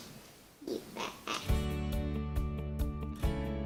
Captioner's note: laugh; upbeat music